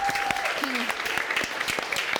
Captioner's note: audience clapping; chuckles